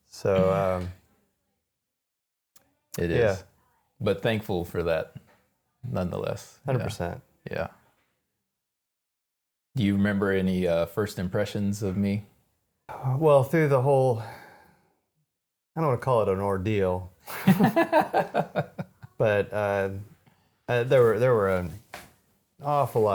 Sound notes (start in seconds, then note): 17.2 both laughing